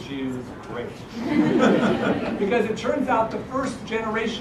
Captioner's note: laugh